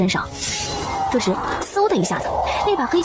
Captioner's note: whoosh